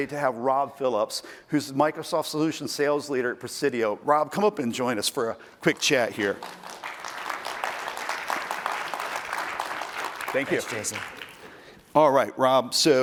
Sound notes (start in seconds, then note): 9.1 applause